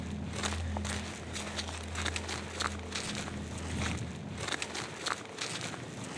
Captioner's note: footsteps